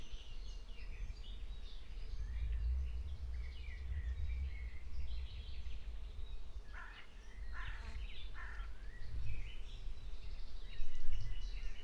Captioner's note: birds murmuring